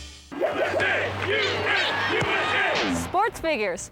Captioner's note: chanting